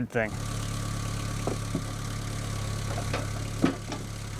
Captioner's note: machine whirring